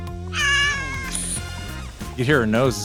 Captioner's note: cat meows